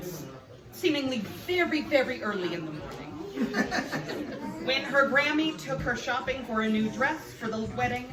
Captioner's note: laughs